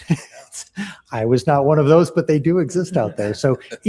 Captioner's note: laughter